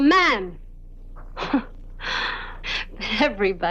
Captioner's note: Flo laughing